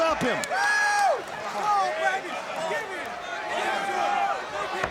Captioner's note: audience cheering and yelling